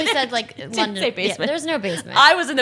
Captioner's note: laughs